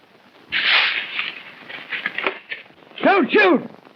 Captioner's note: rustling